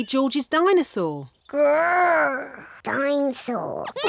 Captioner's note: roars; both laugh